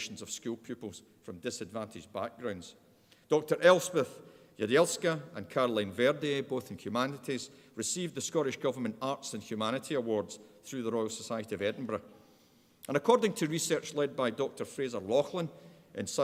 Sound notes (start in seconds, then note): none